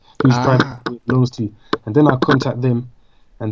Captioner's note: clicking